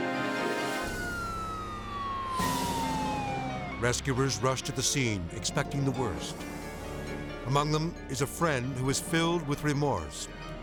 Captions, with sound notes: (sirens blaring) Rescuers rush to the scene expecting the worst. Among them is a friend who is filled with remorse.